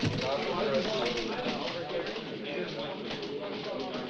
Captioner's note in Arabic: ثرثرة الحشد